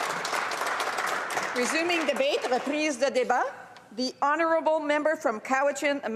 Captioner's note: applause